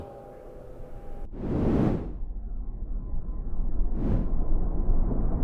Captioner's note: air whooshing